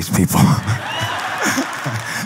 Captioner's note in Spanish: Risas